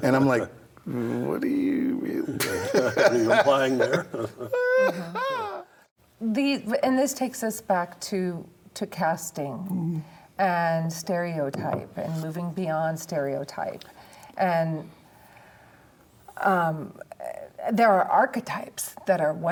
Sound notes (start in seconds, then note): 5.2 laughs